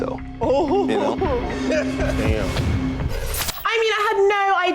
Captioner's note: laughing